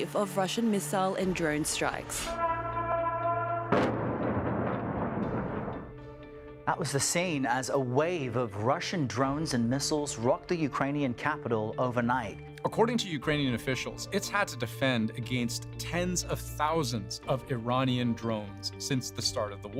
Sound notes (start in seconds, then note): 2.2 sirens; 6.1 explosion